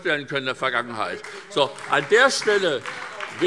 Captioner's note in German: Beifall SPD